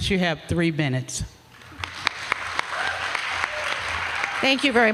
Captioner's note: applause